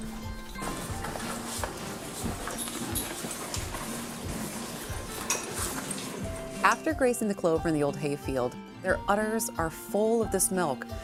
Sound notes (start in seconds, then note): 0.5 cows munching